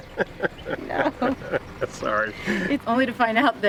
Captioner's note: laughing